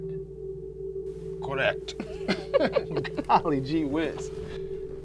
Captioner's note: chuckles